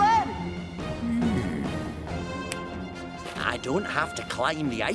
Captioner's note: snaps